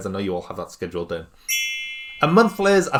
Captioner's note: rings